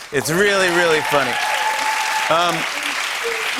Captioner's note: cheers and applause